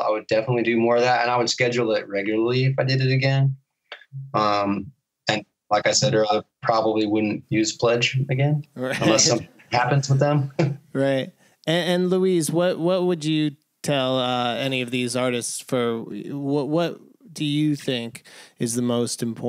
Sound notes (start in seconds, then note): 8.8 laughter